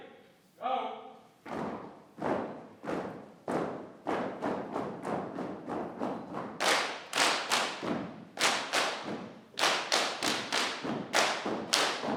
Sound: clapping, stomping in rhythm

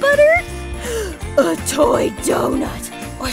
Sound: gasping

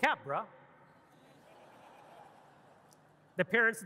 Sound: audience laughing

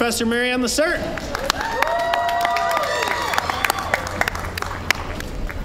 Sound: applause, cheering

